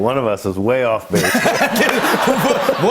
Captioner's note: laughter